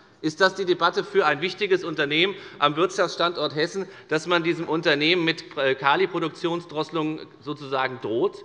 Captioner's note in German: none